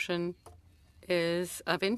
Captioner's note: speaking french